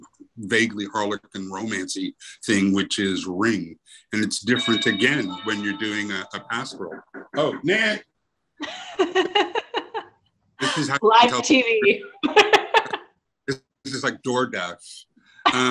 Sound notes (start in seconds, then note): 6.9 knocking and doorbell; 8.6 laughs